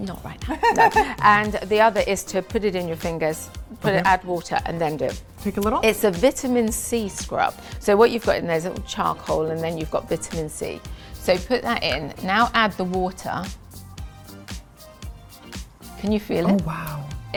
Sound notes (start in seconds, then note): 0.5 laughs; 13.7 bright upbeat music